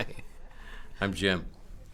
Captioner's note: chuckling